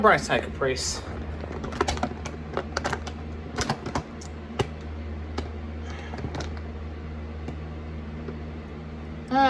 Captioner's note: closed bag rustling